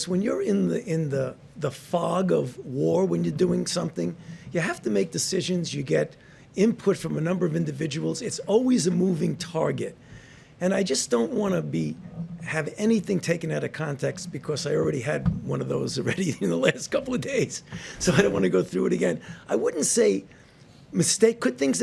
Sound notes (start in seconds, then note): 15.8 laughs